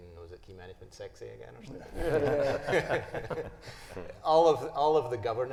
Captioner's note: panelists chuckling